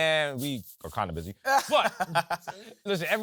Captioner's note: laughs